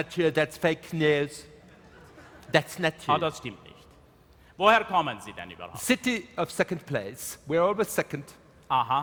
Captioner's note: speaking in German